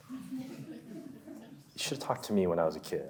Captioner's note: audience laughs